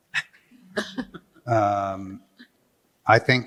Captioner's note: laughter